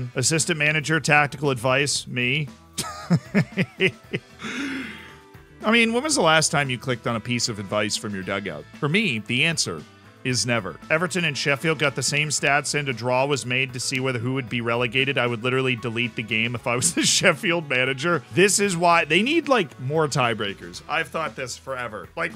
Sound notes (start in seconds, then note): 2.8 laughs; 4.3 deep inhale